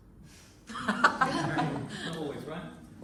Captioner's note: laughter